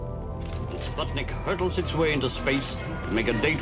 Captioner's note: radio voice